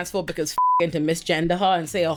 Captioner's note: beep